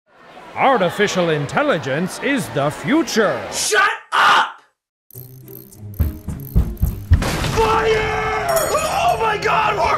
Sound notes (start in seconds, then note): 0.7 voiceover; 5.1 ratcheting noises; 5.1 fun music playing; 8.4 metal clattering